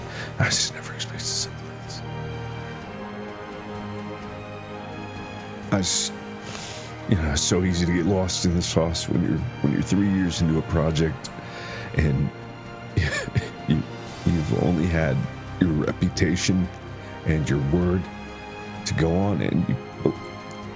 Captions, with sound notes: I just never expected something like this. I just [SNIFFLE] You know... It's so easy to get lost in the sauce When you're... when you're 3 years into a project, and... [STIFFLED LAUGH] you... you've only had your reputation and your word to go on. And you beli...